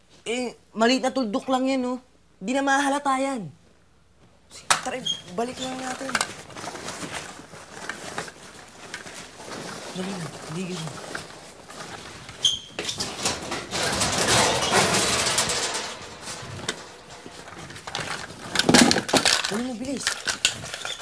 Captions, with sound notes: It's just a small dot. He will not notice it. Okay, come on. Let's put this back. Hurry. Hurry up. [metal door clanking] [brushes rattling] Get it, hurry.